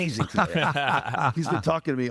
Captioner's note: laughing